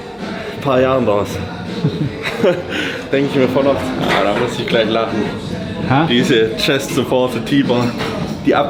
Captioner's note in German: gelächter